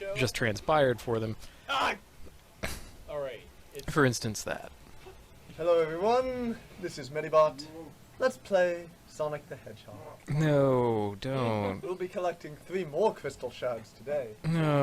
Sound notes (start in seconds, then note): 5.7 in their friendly Kirby 64 LP voice